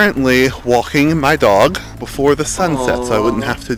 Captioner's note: awww